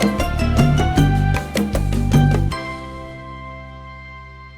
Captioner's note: none